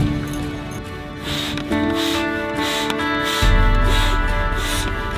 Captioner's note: air pumping